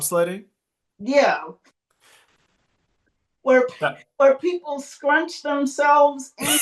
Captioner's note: laughs